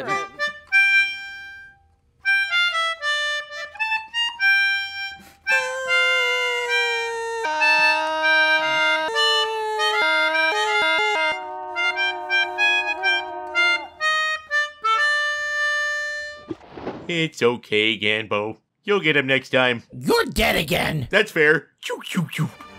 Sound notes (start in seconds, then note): 0.0 flying theme, poorly played on melodica; 5.6 monotone; 6.1 flying theme, poorly played on melodica; 7.5 monotone; 7.9 flying theme, poorly played on melodica; 9.1 monotone; 9.3 flying theme, poorly played on melodica; 10.0 monotone; 10.1 flying theme, poorly played on melodica; 10.5 monotone; 10.5 flying theme, poorly played on melodica; 10.7 monotone